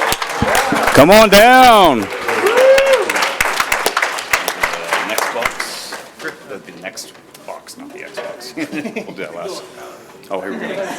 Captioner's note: applause